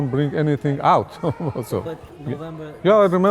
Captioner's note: laughs